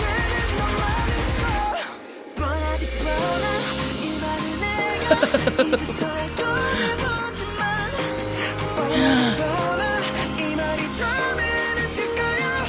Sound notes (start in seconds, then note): 5.0 laughs; 6.7 gasp; 8.9 gasp